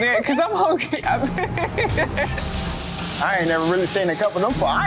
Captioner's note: laughing